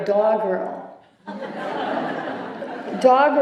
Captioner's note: laughter